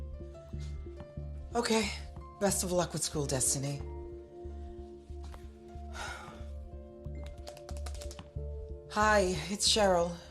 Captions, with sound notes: I didn't realize you hadn't spoken to her in mononths. Okay.. Best of luck with school, Destiny. [sighs] [tapping cellphone] Hi. It's Cheryl.